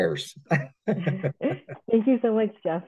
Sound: laughs

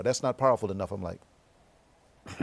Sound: laughs

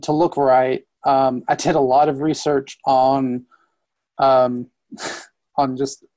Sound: laughs

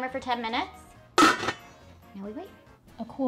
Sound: lid clanking

